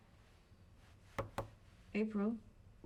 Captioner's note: knocks